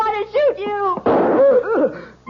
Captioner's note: gunshot